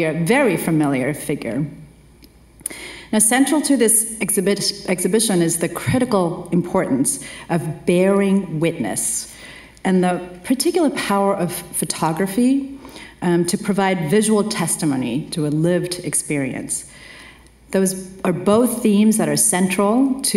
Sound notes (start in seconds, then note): none